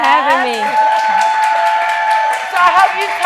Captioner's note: audience cheering